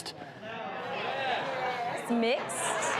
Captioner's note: audience responding